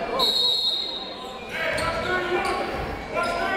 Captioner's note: whistle